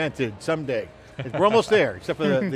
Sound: laugh

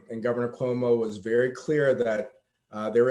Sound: none

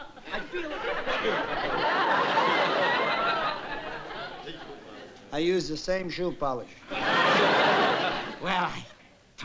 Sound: laughs

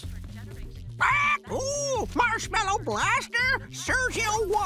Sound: squawking

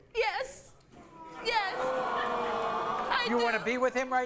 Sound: audience booing

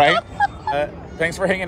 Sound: laughing

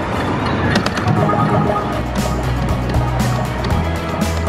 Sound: dropping sound effects; tapping; cheery music

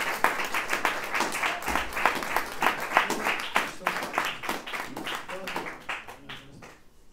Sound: applause

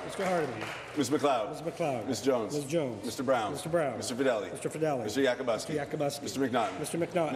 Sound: applause

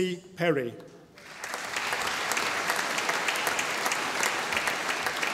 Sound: audience applauding

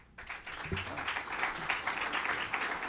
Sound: applause

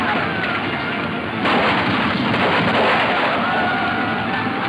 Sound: guns roaring

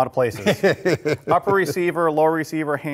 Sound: laughs

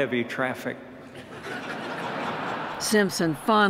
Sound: laughter

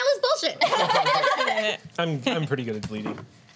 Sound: laughs

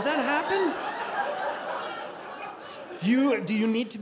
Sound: audience laughing

